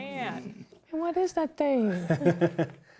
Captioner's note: laughing